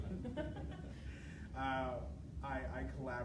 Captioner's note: laughing